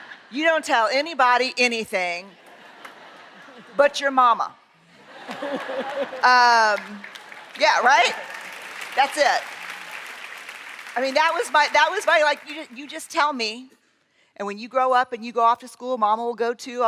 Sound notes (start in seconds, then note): 4.9 laughter; 9.4 applause